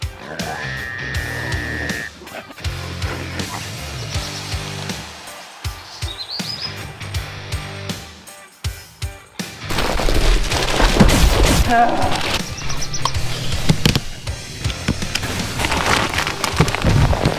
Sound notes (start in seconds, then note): 0.1 night trail cam: deep rhythmic breathing of a lone apex tusker boar